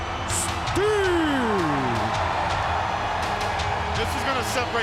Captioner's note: crowd roaring